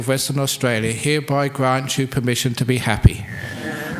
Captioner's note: laughs